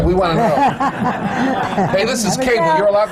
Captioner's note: laughter